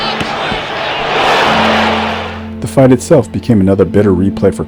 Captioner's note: dramatic music drowns out speaker; speaks faintly